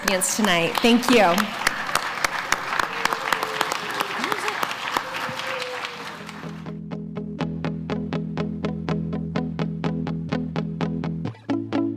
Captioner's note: applause